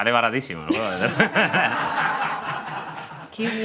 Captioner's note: laughter